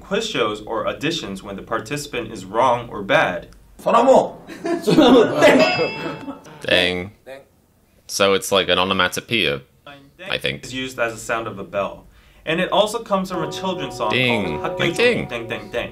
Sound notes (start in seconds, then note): 5.5 DDAENG xylophone sound is demonstrated; 6.5 imitating sound